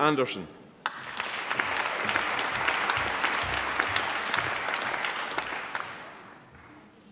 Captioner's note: applause